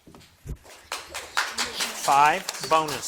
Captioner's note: people clap